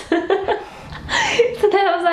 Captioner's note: laughing